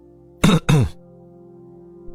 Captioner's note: clears throat